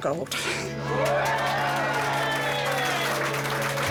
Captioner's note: cheering